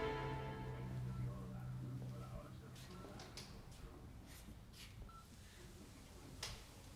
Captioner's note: answering machine beeping